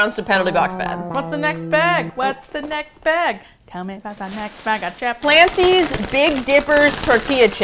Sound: singsong

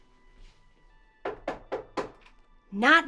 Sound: mysterious knocking

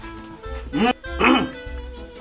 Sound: grunts

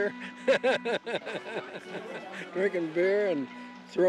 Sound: laughs

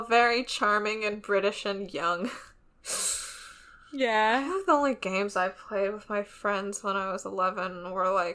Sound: laughs

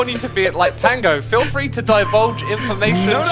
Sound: laughs

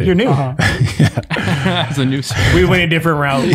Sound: men laughing

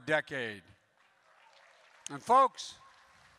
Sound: applause

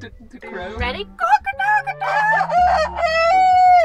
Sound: cock-a-doodle-doo

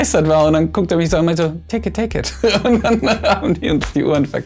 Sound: laughs

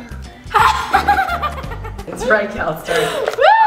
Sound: laughter

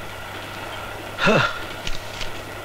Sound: sighs

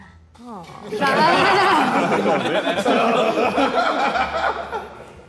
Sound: Sidemen laughing

